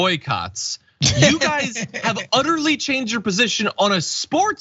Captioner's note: laugh